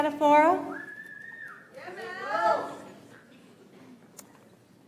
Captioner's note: audience applauds